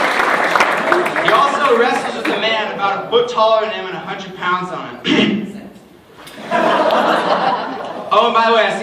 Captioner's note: cough